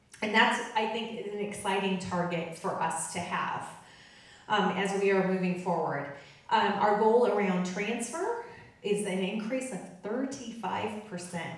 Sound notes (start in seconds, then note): none